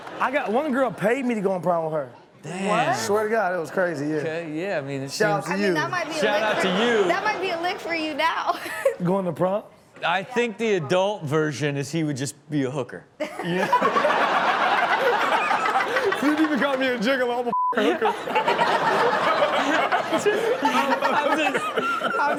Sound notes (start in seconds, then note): 9.0 chuckles; 13.6 all laughing; 18.8 all laughing